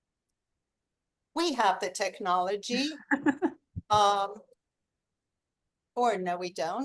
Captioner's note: chuckles